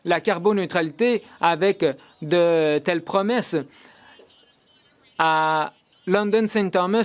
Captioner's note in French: voix de l'interprète